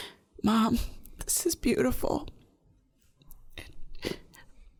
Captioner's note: sobbing